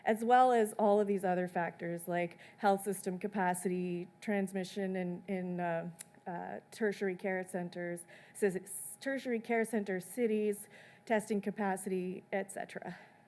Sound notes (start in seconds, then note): none